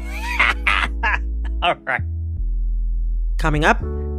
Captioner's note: laughter